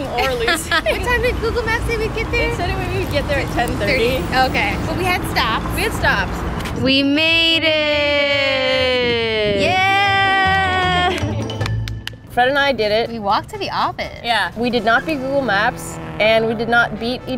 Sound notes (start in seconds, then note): 0.1 laughing; 11.2 slapping